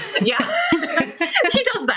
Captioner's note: laughing